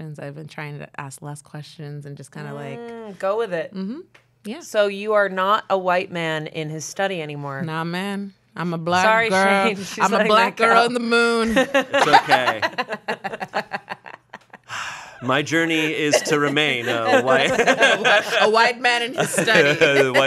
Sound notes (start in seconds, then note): 13.1 everyone laughs; 15.2 laughs